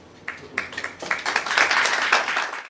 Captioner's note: clapping